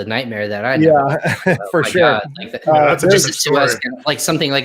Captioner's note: chuckles